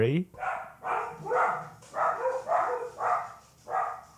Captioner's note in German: Hund bellt